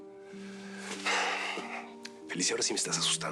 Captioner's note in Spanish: exhala